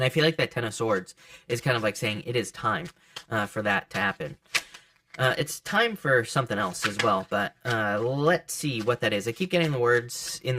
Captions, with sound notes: And I feel that Ten of Swords is kind of like saying it is time (cards shuffling) for that to happen. (cards click) It's time for something else as well. (cards click) But let's see what that is. I keep getting the words (cards shuffling)